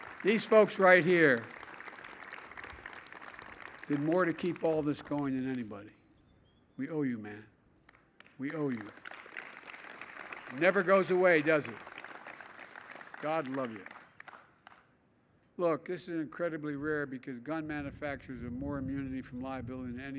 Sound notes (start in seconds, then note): 0.0 applause; 8.3 applause